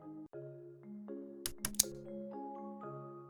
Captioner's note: click sound